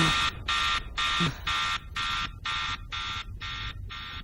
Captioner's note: buzzing fades